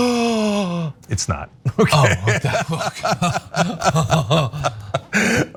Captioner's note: laugh